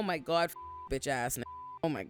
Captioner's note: beep